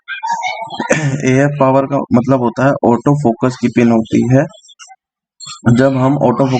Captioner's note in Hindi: गला साफ़ करने की आवाज़